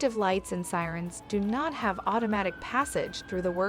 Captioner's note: emergency siren